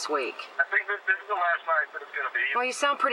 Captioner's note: on phone